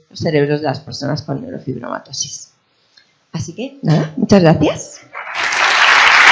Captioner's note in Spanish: aplausos